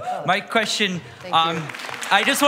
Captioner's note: applause